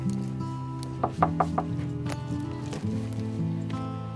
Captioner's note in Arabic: طرق الباب